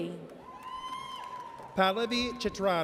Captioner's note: audience cheers